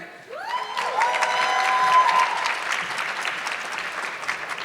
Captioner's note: audience clapping